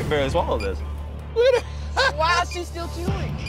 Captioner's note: Jon laughing